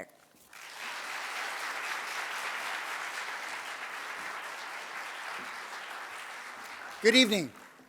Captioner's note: audience applauds